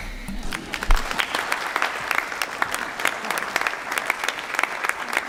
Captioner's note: applause